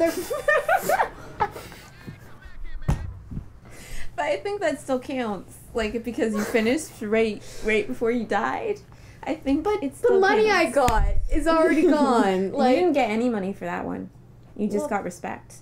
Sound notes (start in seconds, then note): 0.0 laughter; 2.9 thump